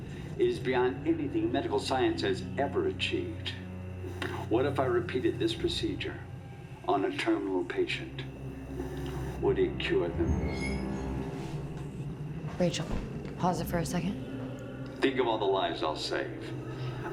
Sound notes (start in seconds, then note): 10.2 object creaks